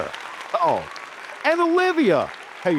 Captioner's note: audience applauding